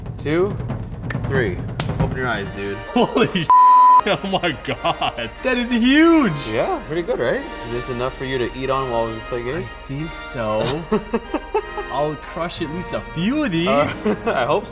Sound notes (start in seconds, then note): 3.5 beep; 10.5 laughs